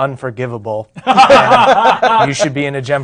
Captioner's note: others laughing